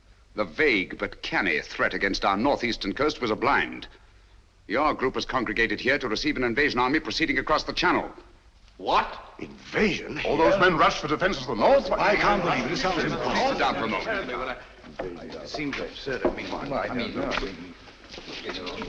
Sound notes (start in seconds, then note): 11.7 crowd clamoring; 15.2 clamoring continues